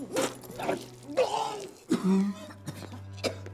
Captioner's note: barfing; coughing